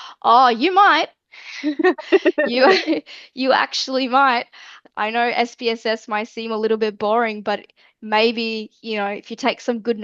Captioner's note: haha